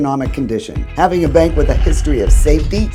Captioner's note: vault door thumping